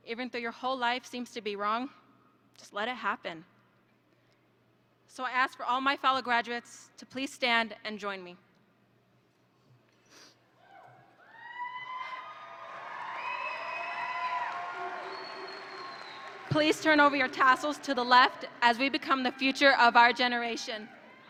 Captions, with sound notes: even though your whole life seems to be wrong, just let it happen. So I asked for all my fellow graduates to please stand and join me. (audience applauds and cheers) Please turn over your tassels to the left as we become the future of our generation.